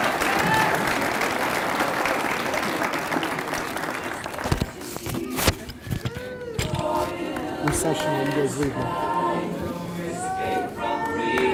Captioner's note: applause